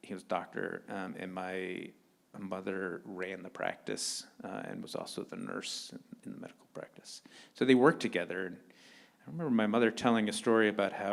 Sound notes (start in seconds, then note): none